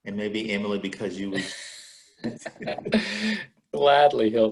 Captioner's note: laughing